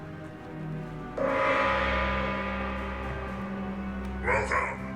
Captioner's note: gong banging